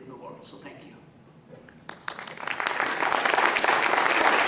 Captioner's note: applause